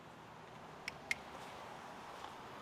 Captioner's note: fingers click